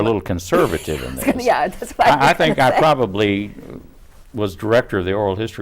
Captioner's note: laughing